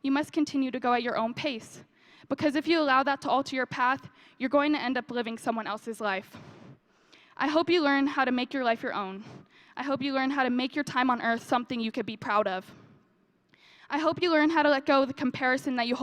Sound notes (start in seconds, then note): none